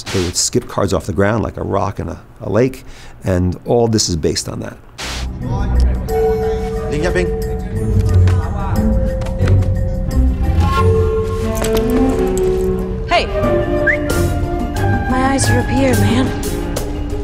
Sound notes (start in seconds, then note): 6.4 playful music; 7.4 foreign language; 13.6 whistles